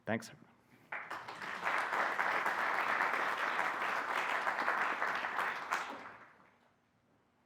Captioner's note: applause